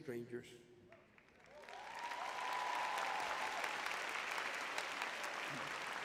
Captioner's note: cheering